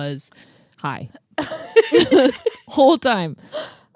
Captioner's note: laugh